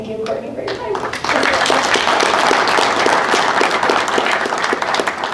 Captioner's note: applause